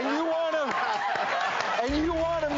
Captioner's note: audience laughing